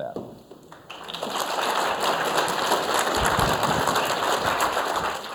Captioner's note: audience applauding